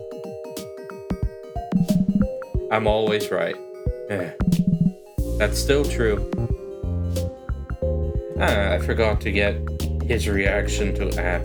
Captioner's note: sigh